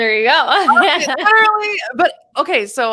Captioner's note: laughs